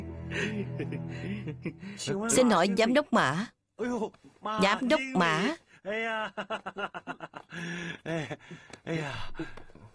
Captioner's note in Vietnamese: Tiếng cười